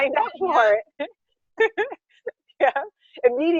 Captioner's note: laughing